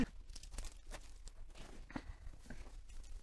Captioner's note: shuffling